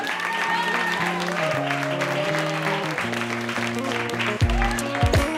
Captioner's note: cheering